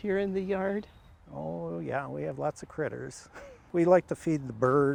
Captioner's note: laughs